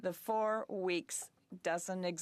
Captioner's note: speaking French